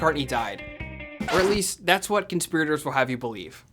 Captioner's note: record squeaks